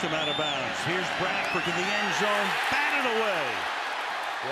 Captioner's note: cheers